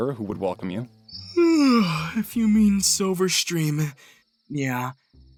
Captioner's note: yawns